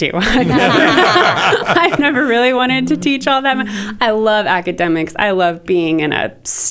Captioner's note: laughter